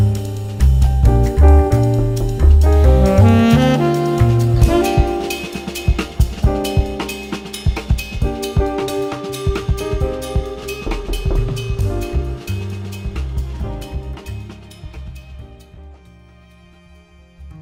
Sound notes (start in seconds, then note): 2.7 Brian knocks; 2.7 buoyant jazzy music; 10.7 Brian knocks; 14.8 gentle music